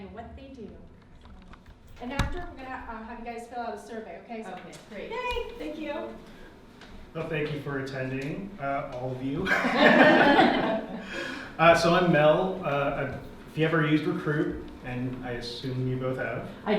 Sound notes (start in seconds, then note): 9.4 group laughs; 9.5 laughs